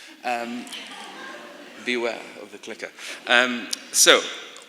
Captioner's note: laughter